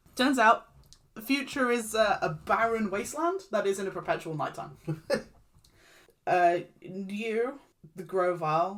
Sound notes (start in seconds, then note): 5.8 laughs